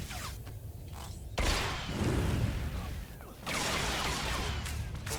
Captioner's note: explosion